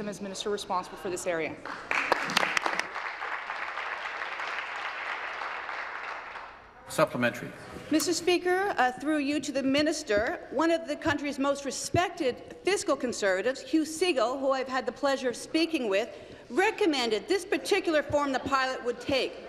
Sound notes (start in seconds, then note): 6.3 applause